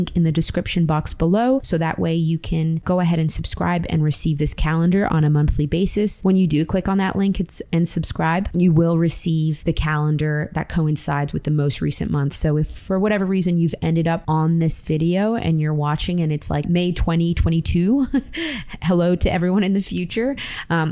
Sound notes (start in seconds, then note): 18.0 chuckles